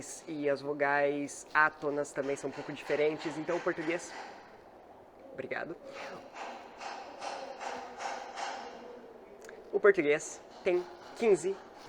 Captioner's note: hammer